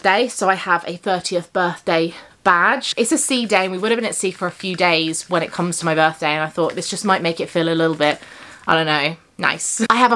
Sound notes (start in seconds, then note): none